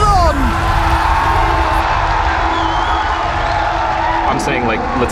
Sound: crowd cheering

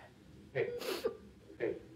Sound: sniffles

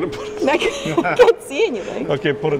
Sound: laughing

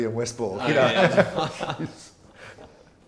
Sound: laugh; confused silence from everyone else

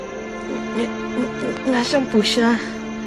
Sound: stutters

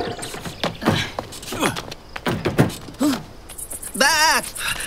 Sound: footsteps scraping; people grunting; man imitating sheep crying

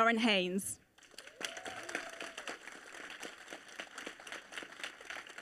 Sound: audience applauding

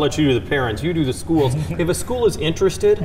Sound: laughing

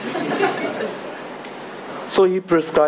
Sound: audience laughing

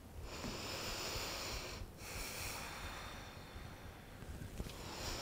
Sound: inhales and exhales

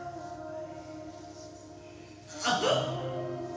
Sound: sobs

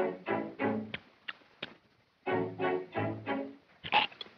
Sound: none

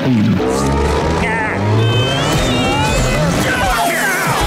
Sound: grunting

